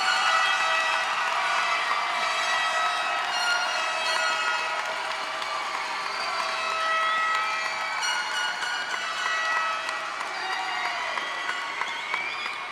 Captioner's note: cheers and applause